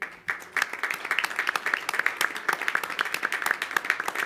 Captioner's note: applause